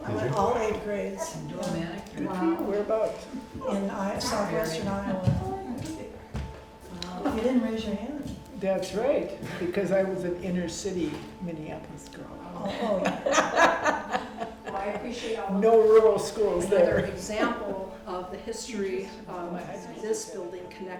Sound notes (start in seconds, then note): 12.6 all laughing